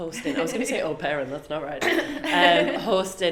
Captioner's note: laughs